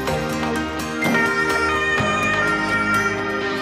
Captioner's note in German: Sirene, aufregende Musik